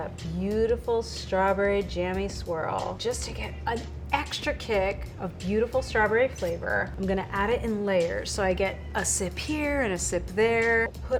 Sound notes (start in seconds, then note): none